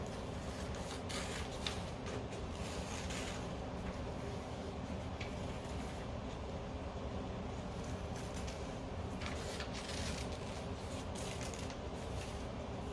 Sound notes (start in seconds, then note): 1.9 scissors cutting paper